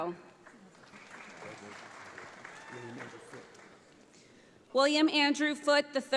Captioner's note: audience applauds